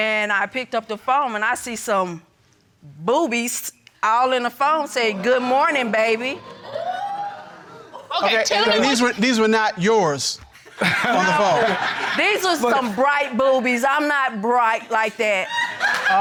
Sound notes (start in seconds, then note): 6.6 crowd wooting